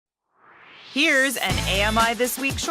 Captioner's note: swoosh